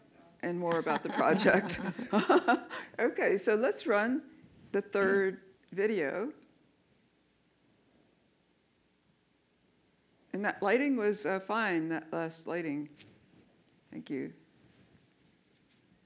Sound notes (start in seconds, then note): 0.7 laughter